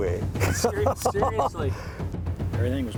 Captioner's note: laughter